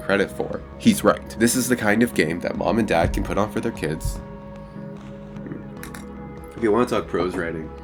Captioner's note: clicks